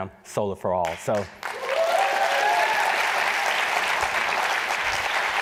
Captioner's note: applause